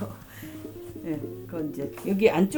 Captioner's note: pat pat pat